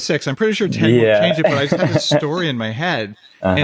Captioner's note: laughs